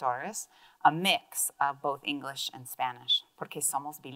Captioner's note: speaks in Spanish